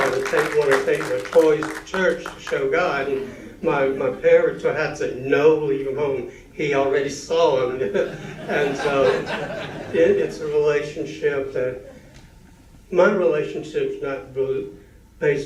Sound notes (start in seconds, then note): 7.8 laughter